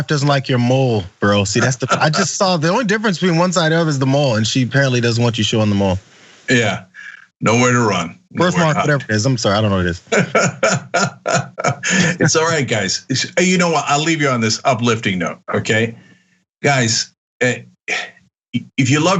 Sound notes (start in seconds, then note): 9.9 laugh